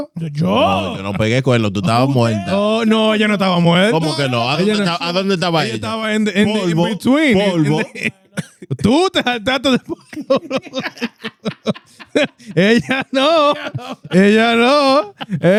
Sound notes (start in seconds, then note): 4.5 laughing; 4.5 speaking In Foreign Language